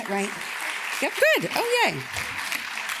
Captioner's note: audience claps